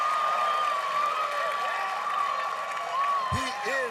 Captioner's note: cheers and applause